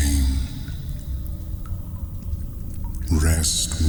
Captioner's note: cave noises